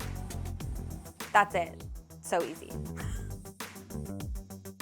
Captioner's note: upbeat music; chuckles; upbeat music